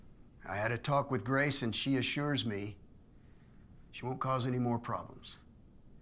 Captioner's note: none